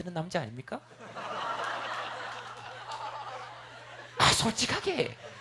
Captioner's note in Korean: 웃음